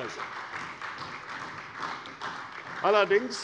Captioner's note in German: Beifall bei der CDU